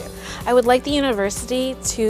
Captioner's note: voiceover